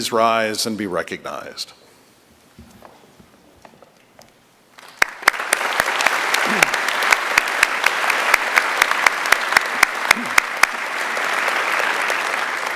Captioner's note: applause